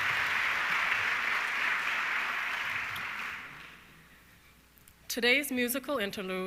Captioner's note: audience clapping continues